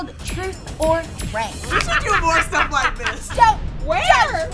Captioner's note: laughs